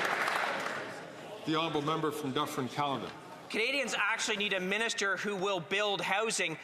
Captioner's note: some Applause